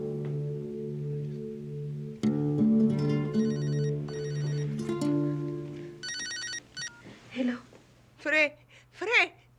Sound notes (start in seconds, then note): 3.2 phone Rings